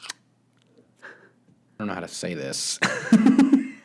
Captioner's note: laughs nervously